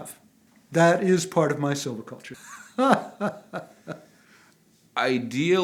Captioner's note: laughing